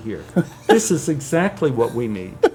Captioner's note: laughs